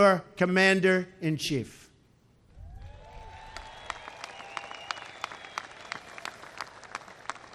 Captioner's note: applause